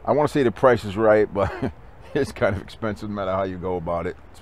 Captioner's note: laughing